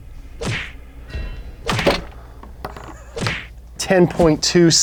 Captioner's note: punching sounds